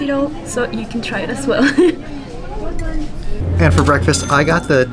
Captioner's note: laughs